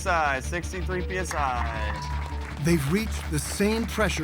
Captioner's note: room clapping